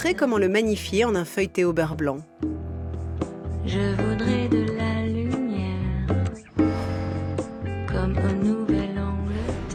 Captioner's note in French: chant